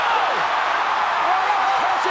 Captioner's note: audience cheering